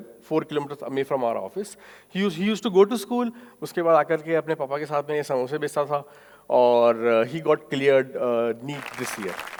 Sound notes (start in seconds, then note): 4.3 speaking foreign language